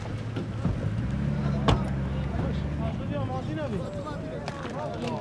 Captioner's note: soldiers speaking foreign language